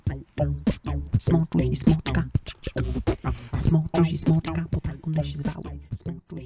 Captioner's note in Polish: w tle beatbox